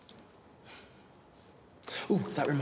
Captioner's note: laughs